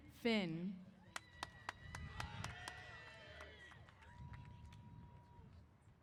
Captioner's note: applause & Cheers